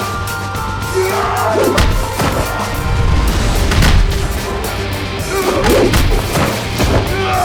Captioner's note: blows thudding; Zhou growling; fighters grunting